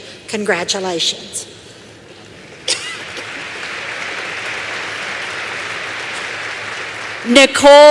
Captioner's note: applause